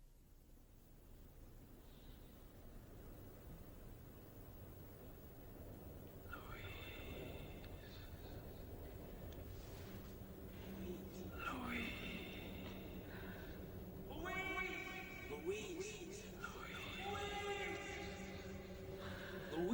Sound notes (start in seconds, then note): 2.0 wind howling; 8.1 whispering; 14.1 shouting